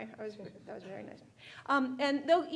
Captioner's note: speaking faintly